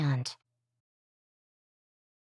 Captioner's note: brief silence